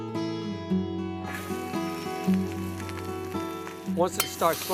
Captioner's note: gentle music; pan sizzling